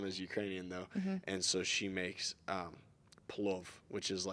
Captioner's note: speaking in Ukranian